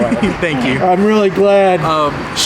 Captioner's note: laughs